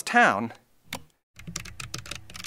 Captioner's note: click; typing